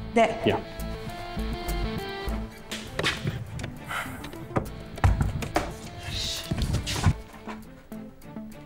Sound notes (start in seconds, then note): 4.2 knocks on door